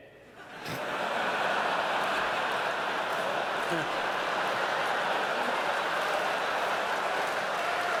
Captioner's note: laughter